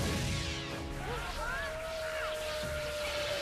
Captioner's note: screaming